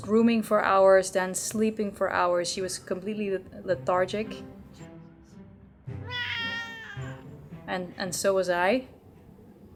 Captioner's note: crying